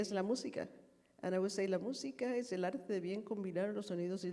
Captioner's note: speaking foreign language